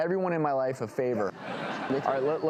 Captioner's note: laughing